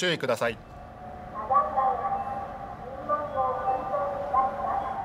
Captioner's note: Japanese spoken audio